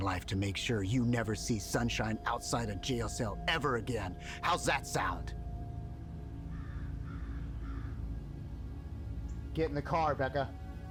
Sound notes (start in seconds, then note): 6.3 crow cawing